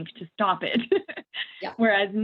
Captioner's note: laughing